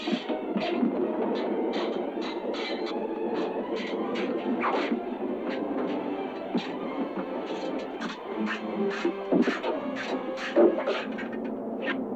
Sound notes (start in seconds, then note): 2.9 dramatic music continues; 7.7 swords clashing